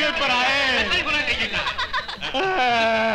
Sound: laughing

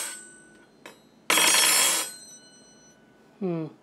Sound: clank

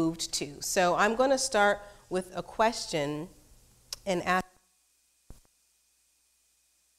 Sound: mic glitch

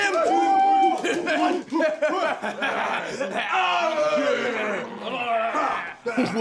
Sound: drunken hollering

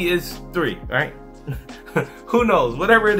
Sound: chuckles

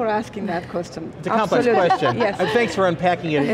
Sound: laughing

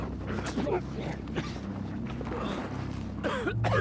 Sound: people grunting

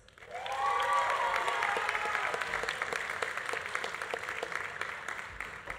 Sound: audience applauding; audience cheering

